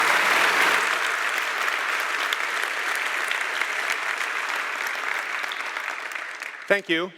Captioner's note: applause